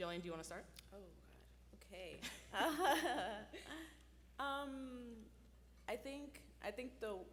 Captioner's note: laughs